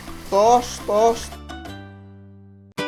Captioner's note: sizzle